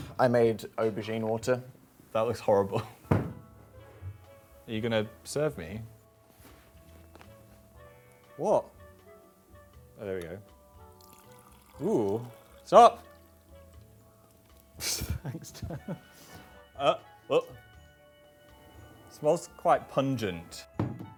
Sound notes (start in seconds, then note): 14.8 laughing